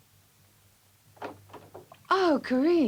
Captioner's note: door opens